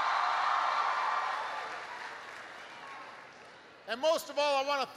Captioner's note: applause